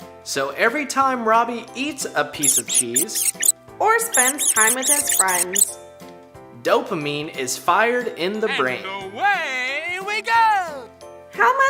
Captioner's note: squeaks